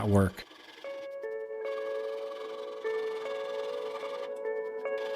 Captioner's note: scraping